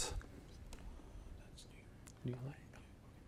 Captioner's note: contestants whispering